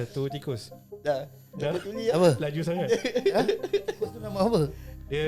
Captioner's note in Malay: ketawa; ketawa